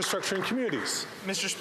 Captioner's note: some Applause